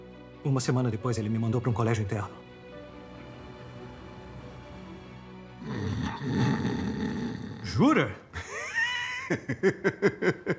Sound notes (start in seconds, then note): 5.6 snoring; 8.3 laughing